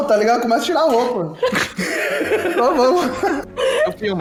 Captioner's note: laughs